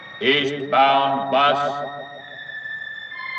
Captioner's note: man on P.A